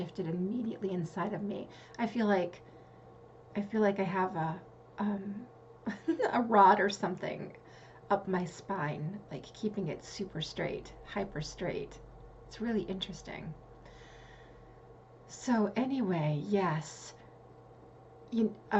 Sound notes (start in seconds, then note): 5.8 giggle